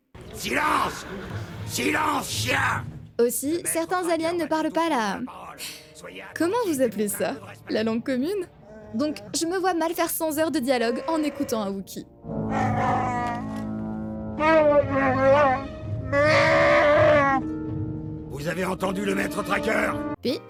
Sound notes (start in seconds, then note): 12.5 Wookie squeaks